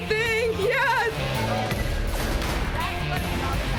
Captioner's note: none